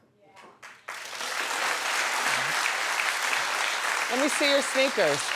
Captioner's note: audience clapping